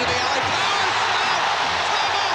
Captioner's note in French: la foule crie